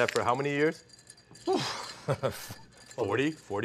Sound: Jacques sighs and laughs

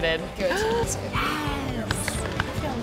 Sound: gasps

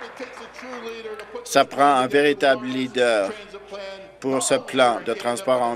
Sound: applause

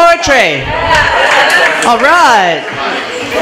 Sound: applause

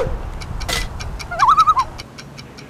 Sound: loon call

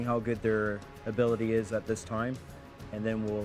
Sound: voiceover

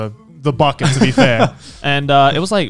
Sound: laughing

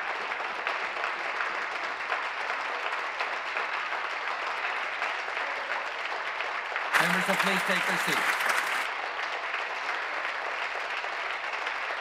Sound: some Applause

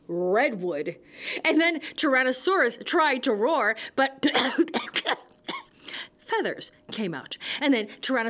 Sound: cough

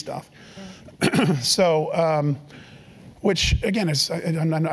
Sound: cough

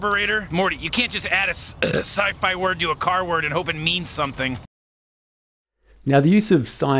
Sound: burp

